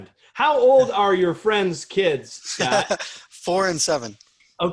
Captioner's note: laughter